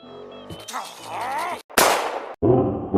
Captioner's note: Squidward Growls In Frustrastion; gunshot